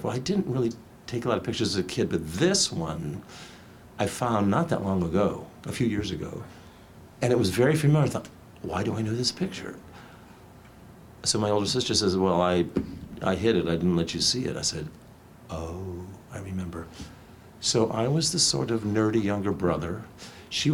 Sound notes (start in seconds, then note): none